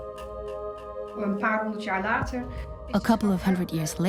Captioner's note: speaks Dutch